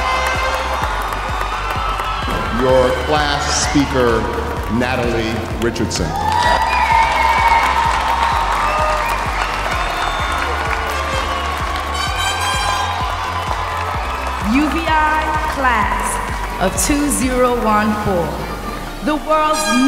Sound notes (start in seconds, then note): 0.0 cheers and applause; 7.7 cheers and applause